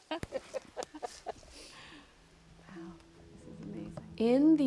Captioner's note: laughter